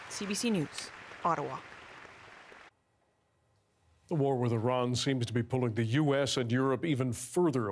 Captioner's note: applause